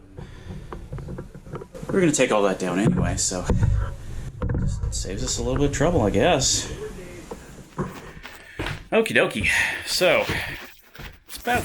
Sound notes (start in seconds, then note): none